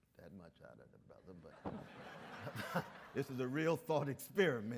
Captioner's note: audience laughs